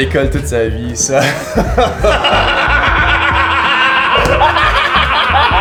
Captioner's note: laugh; their laughter crescendos hysterically